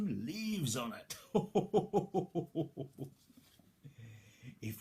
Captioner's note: chuckles